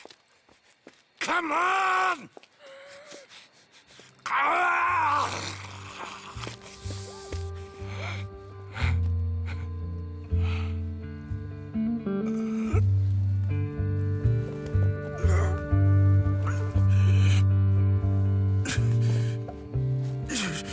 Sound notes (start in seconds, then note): 4.2 Micah grunts and leaves